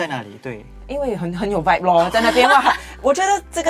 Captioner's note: haha